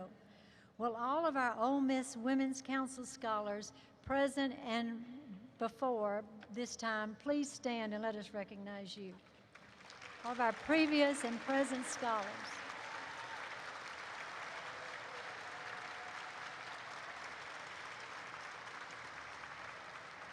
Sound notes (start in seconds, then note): 12.1 applause erupts